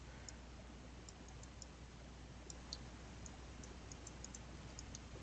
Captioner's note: mouse clicking